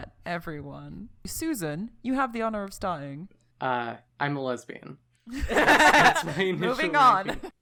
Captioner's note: people laughing